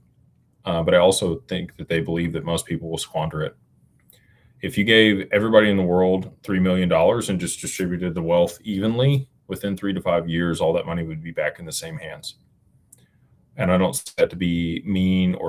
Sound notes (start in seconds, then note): none